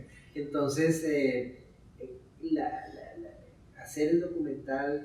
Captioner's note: speaking in Spanish